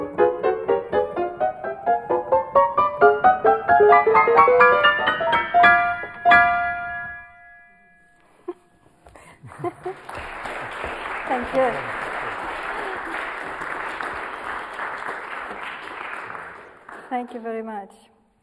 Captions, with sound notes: (audience applauds) Thank you. Thank you very much.